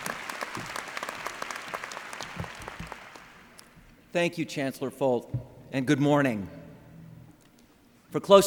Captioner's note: applause